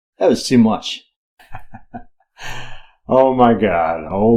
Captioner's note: chuckles